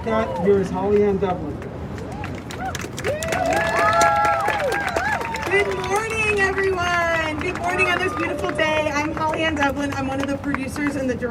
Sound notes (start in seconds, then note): 2.7 crowd cheers